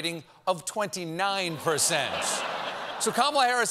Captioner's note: laughter